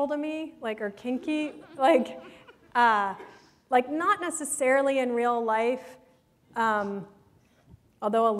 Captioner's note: laughter